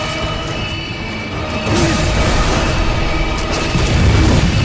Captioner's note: loud thumping